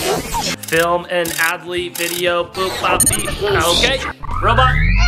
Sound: ratcheting

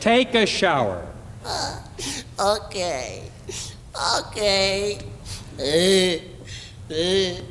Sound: groans

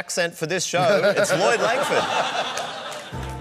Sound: laughter

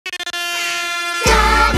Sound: air horn blares

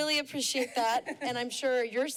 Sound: laughter

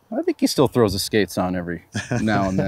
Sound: laughs

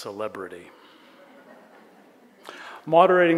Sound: audience chuckles

